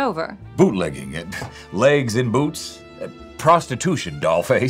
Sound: laughing

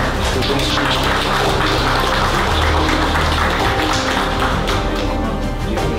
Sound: applause

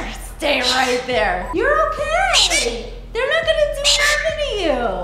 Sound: bird squawking

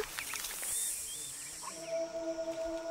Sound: snake sound

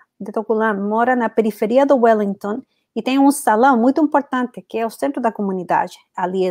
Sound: speaks portuguese

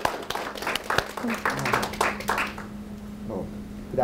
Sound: group applauds

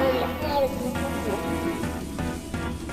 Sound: electronic static

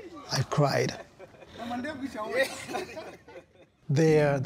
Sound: laughing; speaking in foreign language

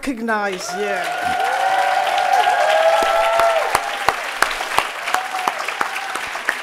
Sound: audience applauding and cheering

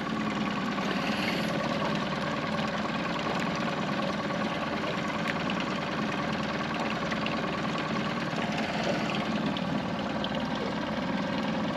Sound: boat engine idling

